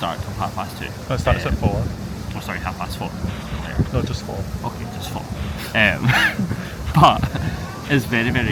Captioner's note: laughs